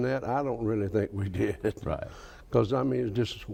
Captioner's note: laughs